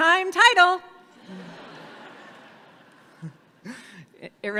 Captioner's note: audience laughs